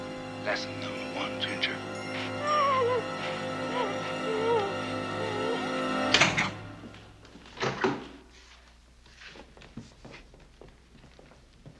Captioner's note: sobbing